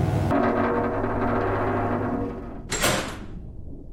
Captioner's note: electric buzzing; gears grinding